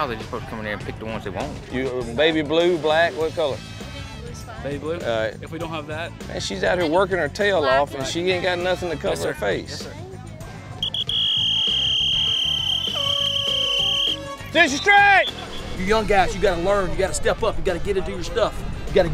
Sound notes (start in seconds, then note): 10.8 whistle blowing